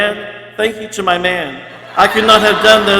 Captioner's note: people laughing